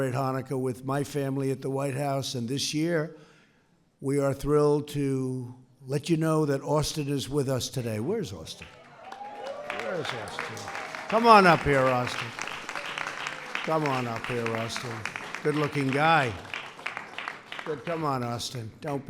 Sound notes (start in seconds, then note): 10.6 applause